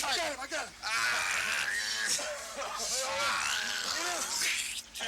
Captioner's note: Dusty groaning